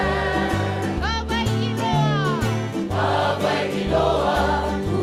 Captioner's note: non-english speech